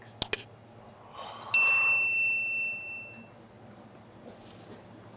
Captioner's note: bell rings